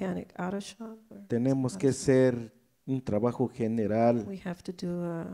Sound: speaks in foreign language

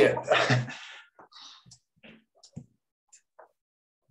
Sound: chuckles

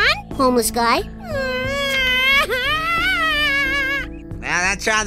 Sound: crying

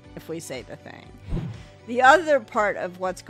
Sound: screen whooshes

